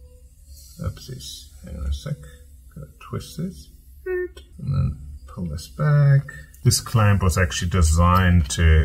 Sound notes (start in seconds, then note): 3.3 imitates screw squeaking